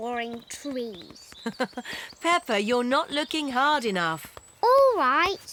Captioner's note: laughs